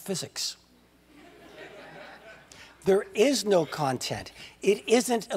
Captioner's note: laugh